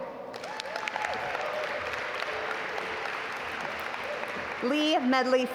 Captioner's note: audience applaud